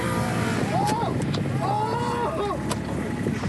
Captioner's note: screaming